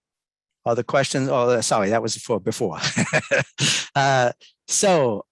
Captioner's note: laughs